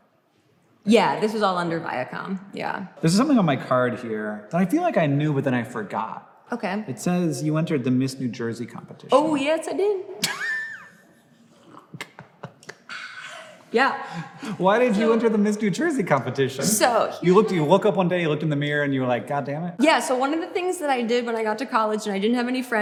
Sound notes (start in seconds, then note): 11.7 Hank laughs